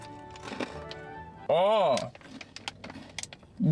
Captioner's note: moans